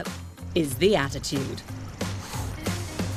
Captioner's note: cat hisses